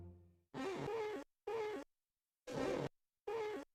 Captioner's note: glass squeaking